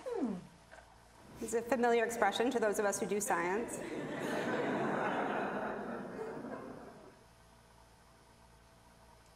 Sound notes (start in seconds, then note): 3.6 audience laughing